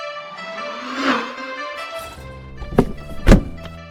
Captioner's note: spaceship engine; spaceship lands; spaceship door opens and closes